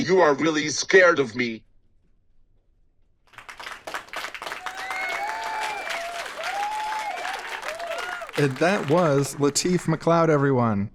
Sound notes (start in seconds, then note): 3.2 audience applauds